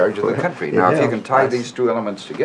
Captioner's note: chuckles